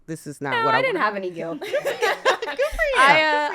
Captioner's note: laughs